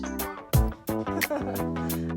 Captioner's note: laughter